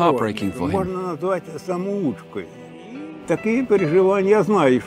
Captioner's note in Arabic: الصوت المنطوق بالروسية